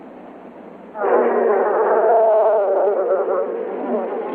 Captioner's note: bees buzzing